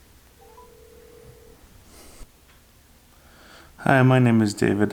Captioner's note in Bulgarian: звънене по телефона